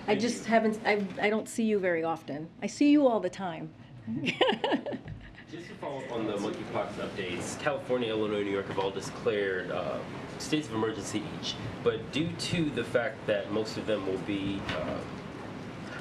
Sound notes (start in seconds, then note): 4.0 laughs